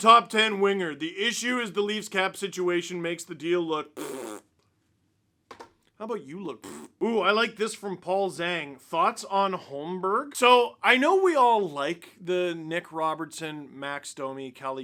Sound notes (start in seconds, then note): 3.9 fart noise; 6.6 fart noise